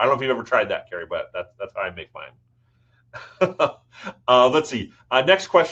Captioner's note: chuckles